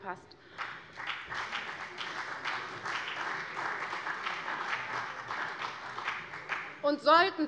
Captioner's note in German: Beifall CDU und BÜNDNIS 90/DIE GRÜNEN